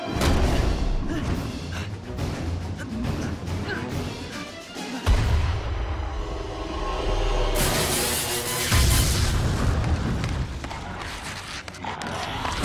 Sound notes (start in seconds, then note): 0.2 banging; 7.3 sizzling; 7.5 explosion